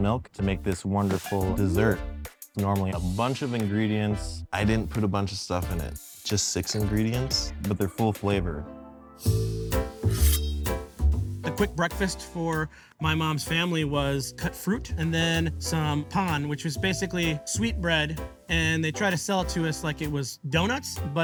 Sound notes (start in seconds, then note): 9.1 jazzy upbeat music; 9.7 knife scraping